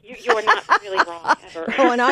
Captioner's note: laughs